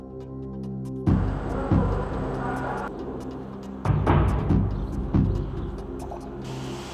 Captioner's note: machinery whirring; employee chattering; machinery whirring